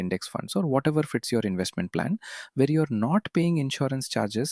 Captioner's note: thoughtful